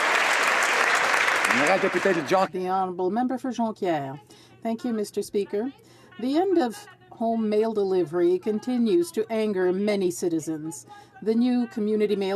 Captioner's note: some Applause